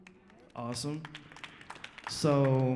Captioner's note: audience applauds